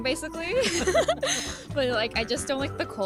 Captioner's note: laughs